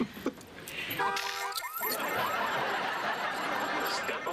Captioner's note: ala goes off